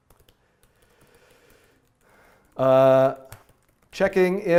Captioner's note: deep breathing